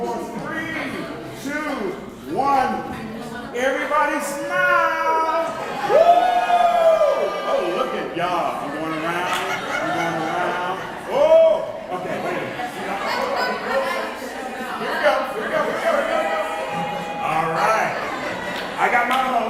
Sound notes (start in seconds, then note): 5.0 cheering; 13.8 background Discussion